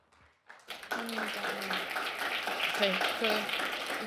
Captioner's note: clapping